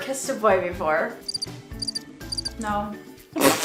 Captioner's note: crickets chirping